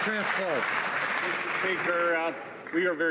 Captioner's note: some Applause